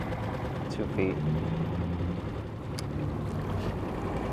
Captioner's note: motor droning